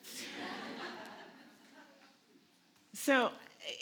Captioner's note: audience laughs